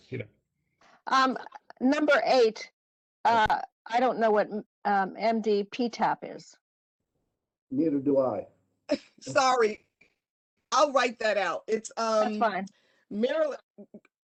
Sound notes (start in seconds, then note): 9.0 laughter